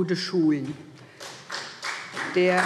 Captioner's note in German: Beifall SPD